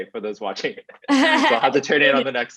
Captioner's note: both laugh